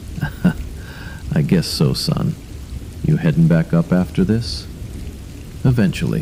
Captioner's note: haha